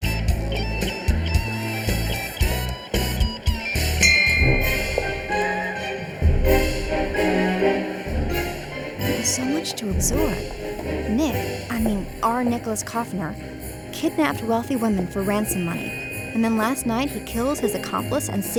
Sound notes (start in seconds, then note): 0.1 group chattering; 0.1 upbeat music; 3.7 bell dings; 4.1 fast tempo dramatic music